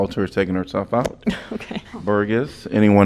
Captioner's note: laughter